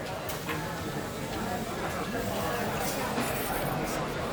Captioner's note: indistinct crowd chatter